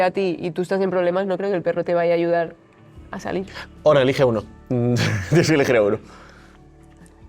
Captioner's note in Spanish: risas